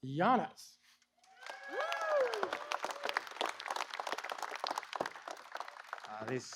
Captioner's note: applause